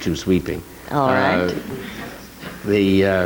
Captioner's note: audience laughing